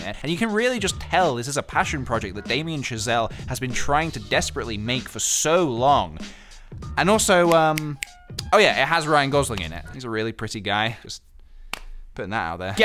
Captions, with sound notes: And you can really just tell this is a passion project, that Damien Chazelle has been trying to desperately make for so long! And also um, *snaps*, oh yeah! It has Ryan Gosling in it. He's a really pretty guy, Just...putting that out there...